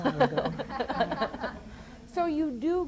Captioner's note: laughs